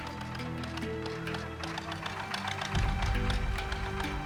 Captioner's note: motor rumbling